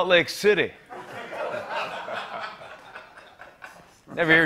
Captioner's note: laughter